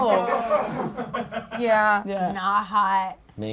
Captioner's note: audience laughs